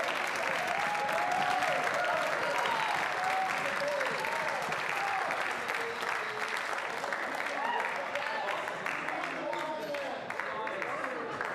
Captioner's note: cheers and applause